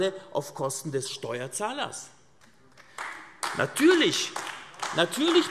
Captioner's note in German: Beifall AfD